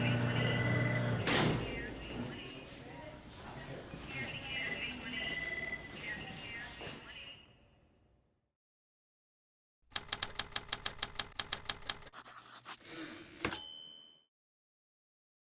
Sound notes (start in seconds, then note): 2.6 woman speaking over intercom; 12.5 typewriter clicking